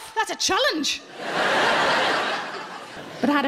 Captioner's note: audience laughing